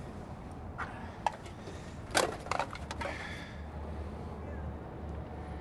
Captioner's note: aluminum crunching